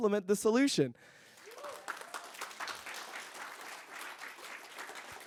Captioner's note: applause